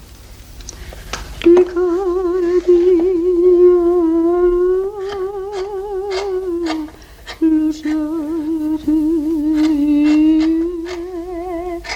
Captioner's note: hums a romance